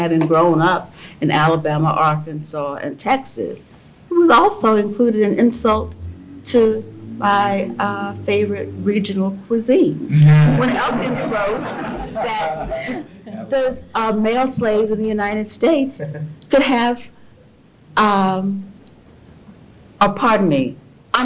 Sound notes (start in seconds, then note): 10.9 laughter